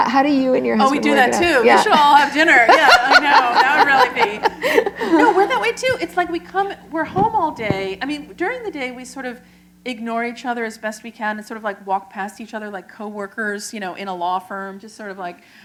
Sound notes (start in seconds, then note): 4.2 laughter